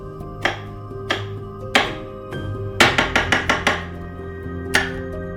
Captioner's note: knife thuds fastens